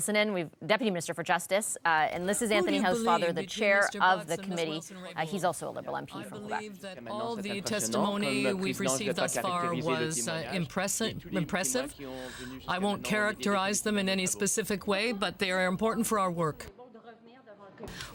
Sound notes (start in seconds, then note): 10.7 speaking French